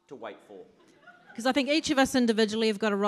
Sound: audience laughs

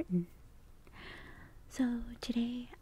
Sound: inhaling

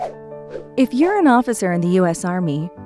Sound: whooshing

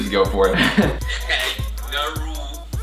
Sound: laughs

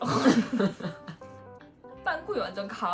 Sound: laughs ♡

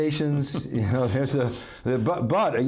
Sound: laughs

